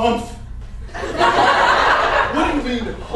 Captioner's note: audience laughter